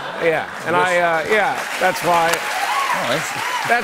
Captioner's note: cheers and applause